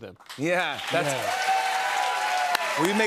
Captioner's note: cheers and applause